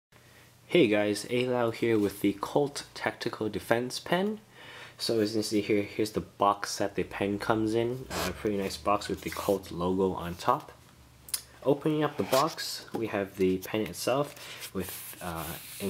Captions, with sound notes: hey guys ALau here with the Colt Tactical Defense pen so as you can see here, this is the box that the pen comes in *squeak* very nice box with the Colt logo on top opening up the box, we have the pen itself